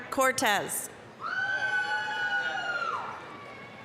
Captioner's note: applause, cheering